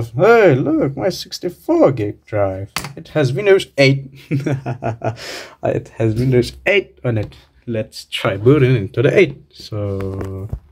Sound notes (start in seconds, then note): 4.2 hehehehe